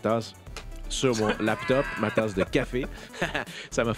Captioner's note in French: rires